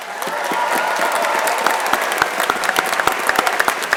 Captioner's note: crowd applauding